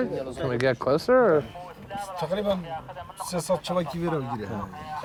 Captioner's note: speaking foreign language